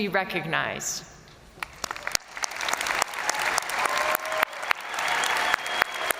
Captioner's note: crowd applauding; crowd cheering